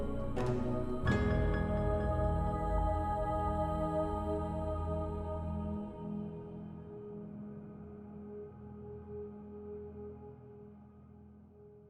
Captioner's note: slap! Slap!